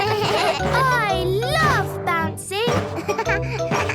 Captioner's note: bleating; giggles; giggles, snorts